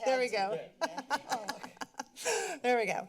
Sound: background conversations; laughs

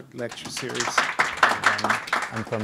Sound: clapping

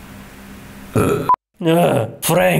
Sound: burp

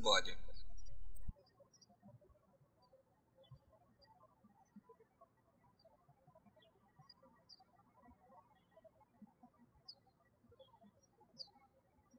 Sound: birds chirping

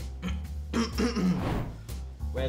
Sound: clears throat

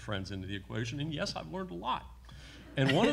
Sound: everyone laughs

